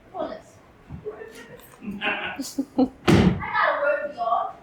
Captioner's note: laughter